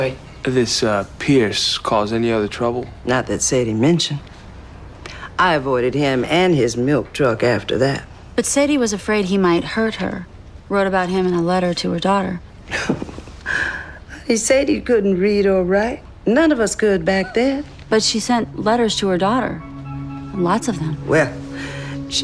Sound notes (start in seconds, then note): 12.6 scoffs